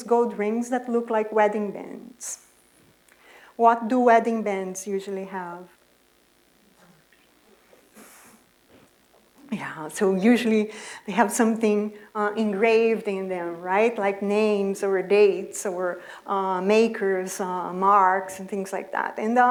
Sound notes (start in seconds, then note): 6.2 audience murmurings